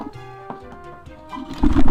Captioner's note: moves chair noisily